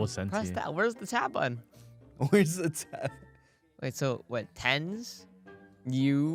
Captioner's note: laughs